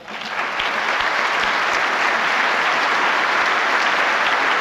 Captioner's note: applause